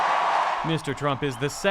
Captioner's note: cheering